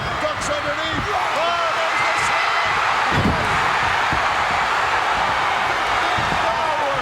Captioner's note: audience cheering